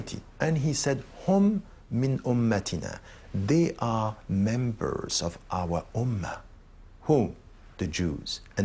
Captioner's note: in arabic